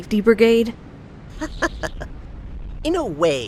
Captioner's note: chuckle